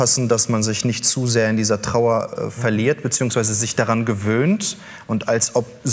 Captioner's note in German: none